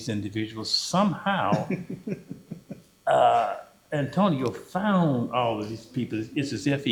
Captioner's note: laughter